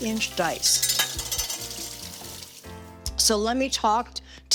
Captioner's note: loud clattering